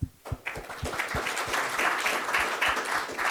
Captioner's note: applause